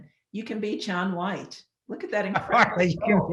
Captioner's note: chuckling